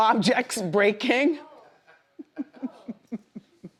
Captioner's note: Wendy laughs; laughs; woman laughs